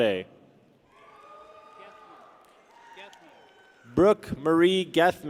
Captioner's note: people cheer